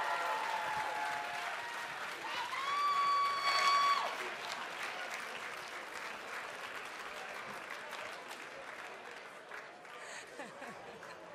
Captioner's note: cheers and applause